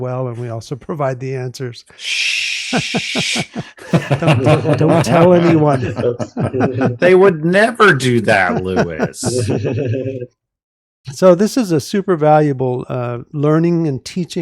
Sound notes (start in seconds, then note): 1.9 shushing; 2.6 laughter